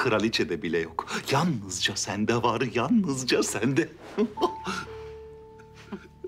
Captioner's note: laughter